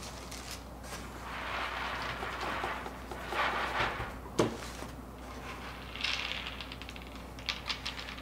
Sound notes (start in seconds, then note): 1.7 beads rustling